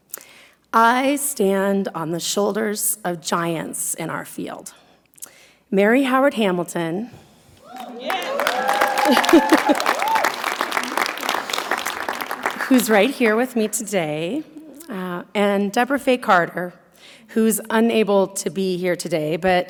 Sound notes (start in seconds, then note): 7.6 audience clapping